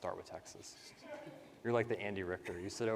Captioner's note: participants laugh